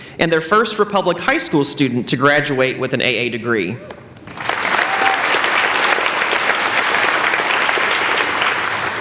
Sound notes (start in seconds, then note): 4.2 applauding